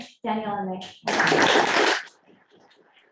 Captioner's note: applause